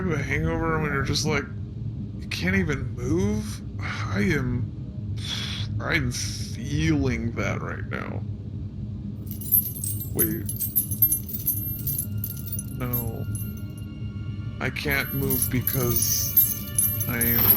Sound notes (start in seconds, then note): 10.1 Shae shifts, a chain jingles gently; 14.8 more jingling